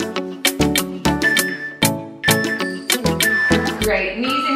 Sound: timer beeping

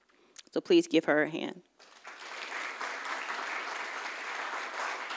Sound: audience applauds

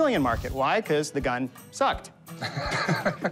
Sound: laughs

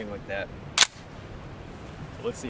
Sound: gun cocks

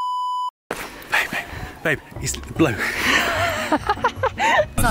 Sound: laughing

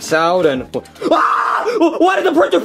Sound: Bowser screaming

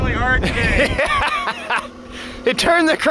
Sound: laughing

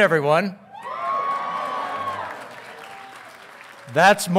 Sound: audience cheering; audience applauding

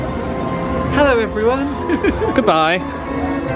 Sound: laughs

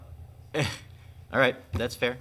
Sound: man laughing

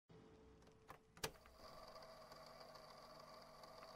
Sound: tape click, tape recording noise

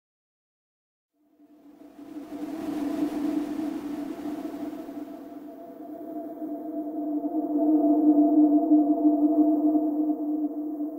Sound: sound of night wind

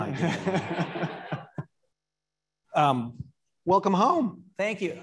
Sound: audience laughing

